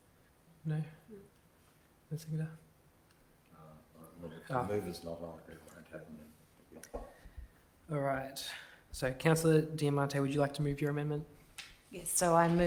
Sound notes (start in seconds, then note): 6.2 speaks faintly